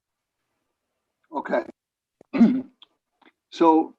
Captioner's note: coughs